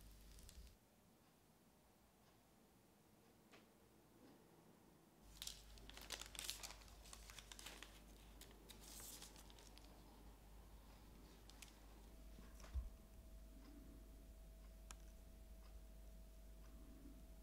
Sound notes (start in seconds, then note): 5.3 rustling